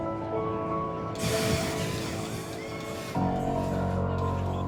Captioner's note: fire blasting